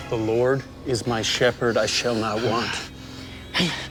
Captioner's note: groaning